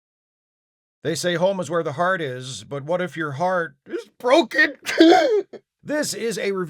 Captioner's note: sob